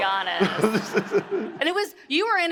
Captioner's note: Emmitt laughs